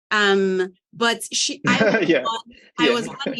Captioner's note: chuckling